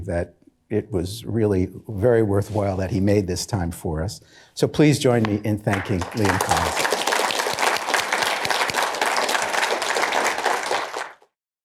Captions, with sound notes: that it was really very worthwhile that he made this time for us. So please join me in thanking Liam Collins. (applause)